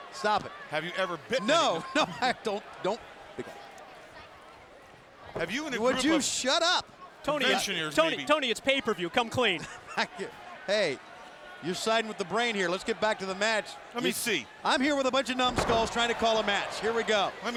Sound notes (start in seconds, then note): 9.8 Tony chuckles